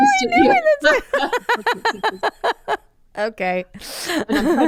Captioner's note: both laughing